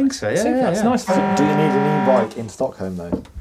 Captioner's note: horn honking